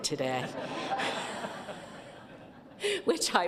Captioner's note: laughter